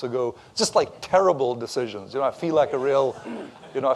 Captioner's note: laughter